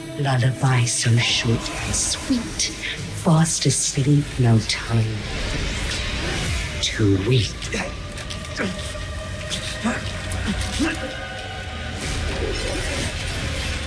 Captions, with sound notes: Lullaby so short and sweet. Fast asleep, no time to weep. (character grunting) (intense music)